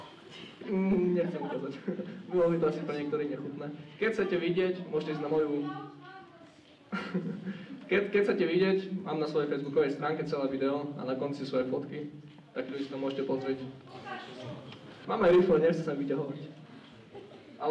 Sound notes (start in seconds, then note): 6.9 laugh